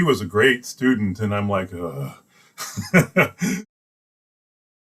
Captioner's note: laughs